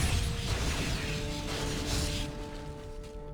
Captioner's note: explosion